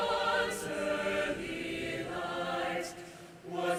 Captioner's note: none